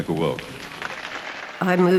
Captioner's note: applause